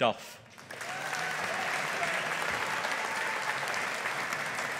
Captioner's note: audience applauding